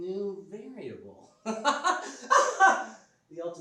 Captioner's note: laughs